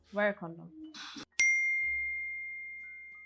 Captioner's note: Lee’s phone beeps with a new message